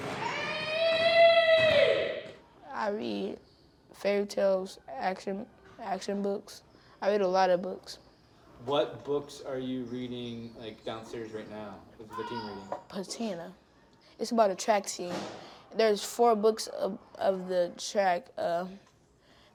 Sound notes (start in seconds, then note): 0.1 boy shouting; 1.5 basketballs thudding; 1.5 sneakers squeaking